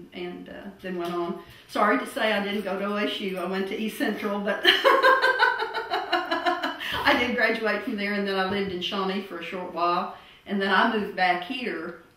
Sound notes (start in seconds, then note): 4.6 laughter